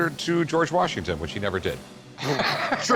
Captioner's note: laughs